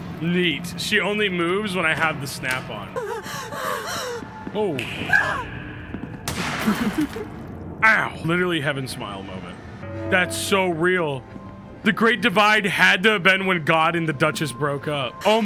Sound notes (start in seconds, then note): 3.0 fake panting; 6.2 gun fires